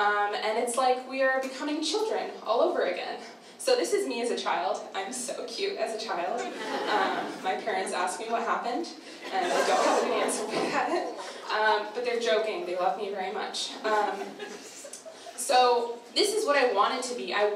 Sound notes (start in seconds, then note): 6.4 audience laughter; 9.2 laughs